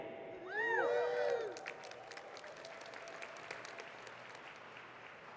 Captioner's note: audience cheering and clapping